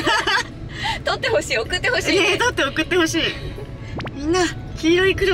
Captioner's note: laughs